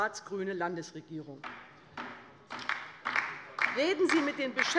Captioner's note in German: Beifall bei der LINKEN